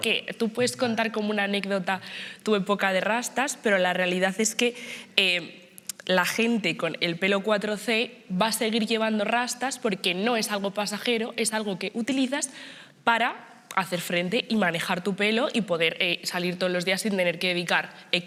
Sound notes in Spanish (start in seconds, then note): none